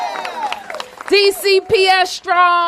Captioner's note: applause